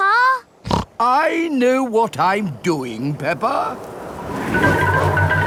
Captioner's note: snorts